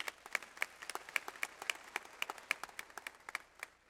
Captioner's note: audience applauds